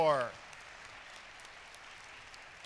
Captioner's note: applause